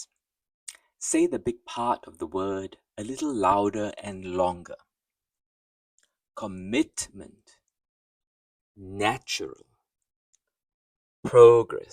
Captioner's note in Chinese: 英语